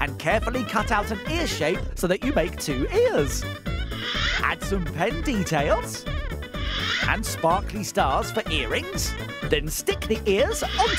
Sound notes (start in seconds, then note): none